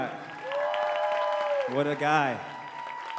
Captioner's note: audience cheering and applauding